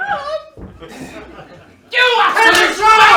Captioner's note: marlow and hastings bicker